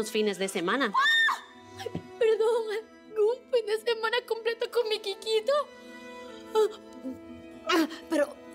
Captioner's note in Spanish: Grito